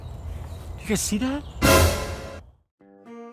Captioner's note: surprise sound effect